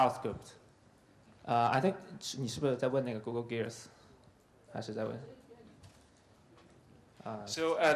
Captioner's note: speaking in Chinese